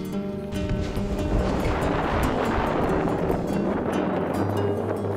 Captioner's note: wind blowing